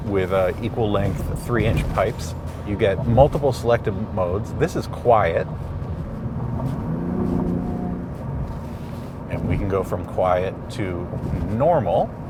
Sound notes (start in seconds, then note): 5.3 car engine revving